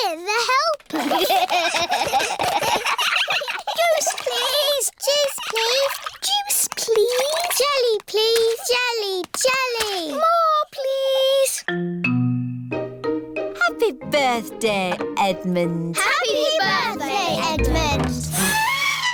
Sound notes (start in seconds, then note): 0.9 all giggling